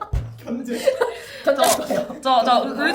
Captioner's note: laughs